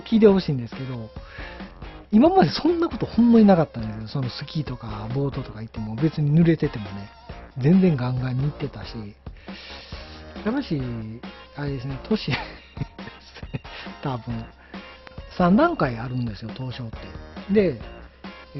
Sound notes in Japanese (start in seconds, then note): 12.2 笑い